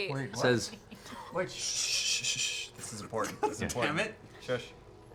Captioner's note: shushing noises